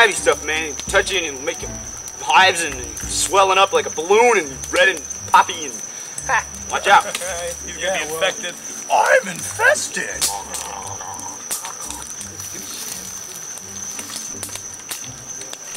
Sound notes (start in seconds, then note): 7.3 laughs; 10.7 fire crackling; 10.7 playful music